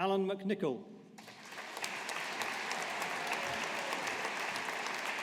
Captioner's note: audience applauding